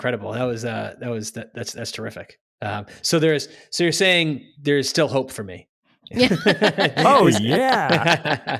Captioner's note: laughs